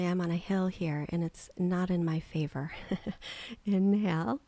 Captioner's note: giggling